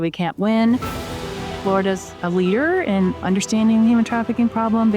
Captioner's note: sound effect